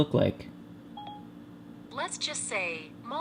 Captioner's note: siri beep